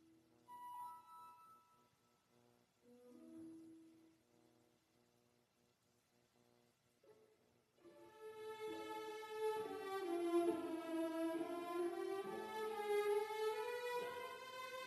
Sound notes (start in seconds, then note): none